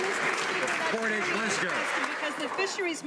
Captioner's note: some Applause